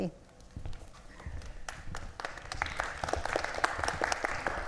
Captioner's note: audience clapping